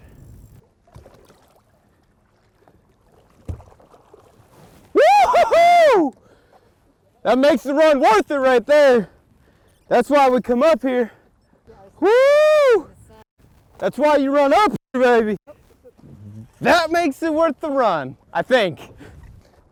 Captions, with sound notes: (yelling in celebration) That makes the run worth it right there. That's why we come up here, that's why you run up here, baby, that makes it worth the run, I think.